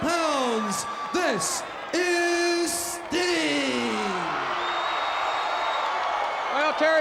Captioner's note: crowd cheers